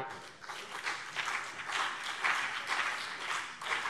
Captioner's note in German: Beifall CDU und BÜNDNIS 90/DIE GRÜNEN